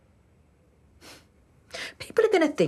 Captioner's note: she sniffs